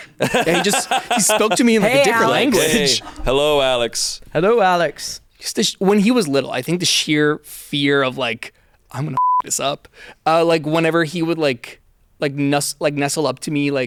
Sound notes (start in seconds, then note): 0.0 everyone laughs; 9.2 beep